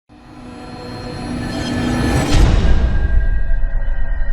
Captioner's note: thud sound effect